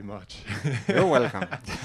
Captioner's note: laugh